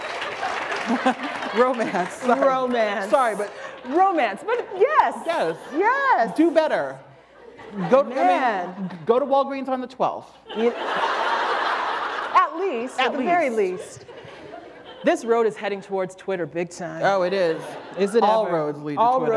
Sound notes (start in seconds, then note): 10.4 laughter